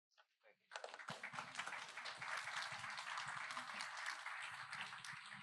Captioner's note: applause